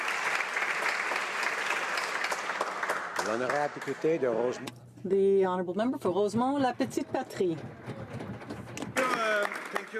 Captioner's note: applause